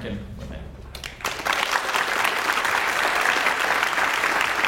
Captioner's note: audience applauds